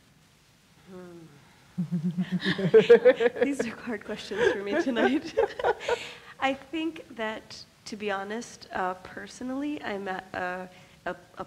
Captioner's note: laughs